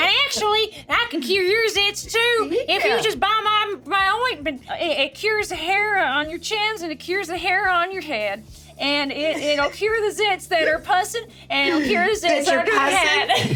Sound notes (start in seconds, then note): 9.3 Richard laughs; 13.3 Sarah and SungWon laughing